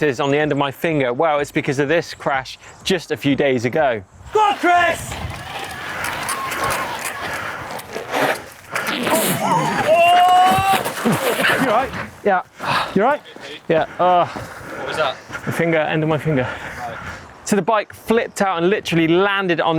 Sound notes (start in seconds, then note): 4.3 bike wheels whirring; 4.5 male Voice; 10.6 crashing; 15.1 male Voice